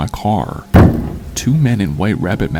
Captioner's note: car slam noise